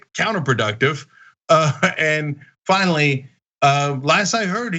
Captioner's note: laugh